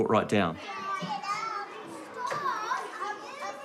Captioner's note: children chatter